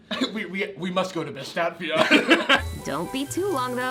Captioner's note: laughs